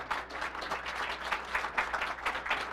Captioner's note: applause